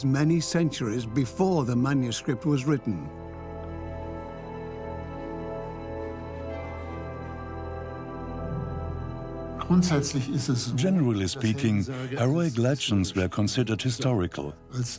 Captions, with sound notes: many centuries before the manuscript was written. (in German) (dubbed in English) Heroic legends were considered historical,